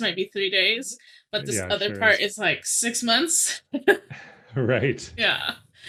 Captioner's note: chuckles